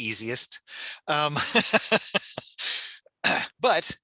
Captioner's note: laughs